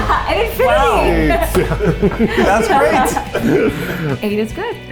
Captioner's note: all laugh